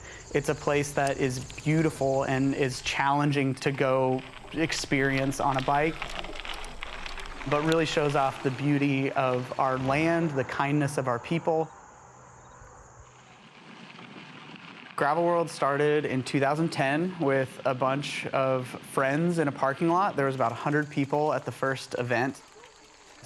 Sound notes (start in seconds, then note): 6.1 gravel crunching; 12.8 wind and crunching gravel